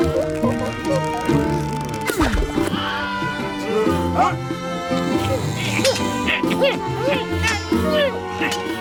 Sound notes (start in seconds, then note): 4.0 swords clanking